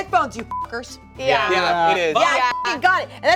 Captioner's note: beep